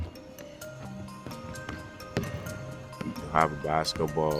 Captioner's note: ball thuds; foot stomps; gentle music; ball dribbling